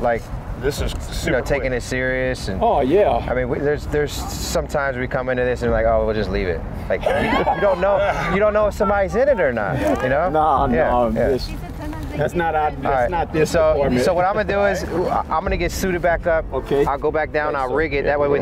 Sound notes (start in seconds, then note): 6.9 officers laughing